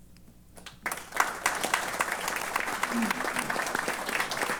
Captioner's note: applause